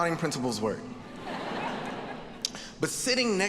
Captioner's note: audience laughing